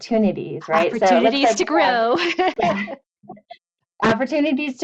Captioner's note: laughs